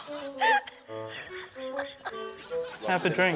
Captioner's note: guffaws